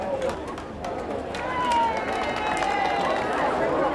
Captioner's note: crowd cheering